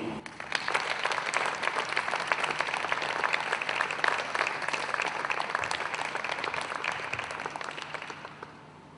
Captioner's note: people Clapping